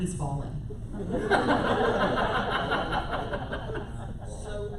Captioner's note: laughter